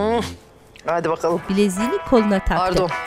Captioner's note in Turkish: Telefon zili sesi